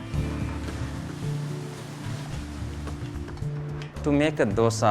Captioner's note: food sizzling